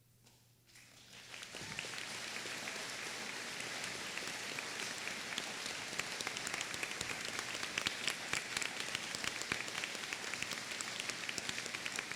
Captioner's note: applause